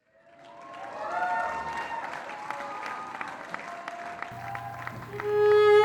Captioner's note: applause